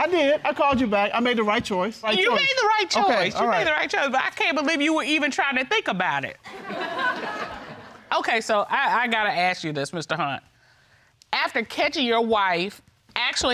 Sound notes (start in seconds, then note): 6.5 audience laughs